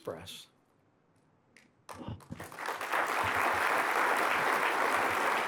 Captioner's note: applause